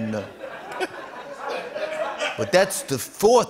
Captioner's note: laughter